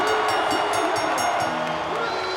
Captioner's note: bell ringing; crowd cheering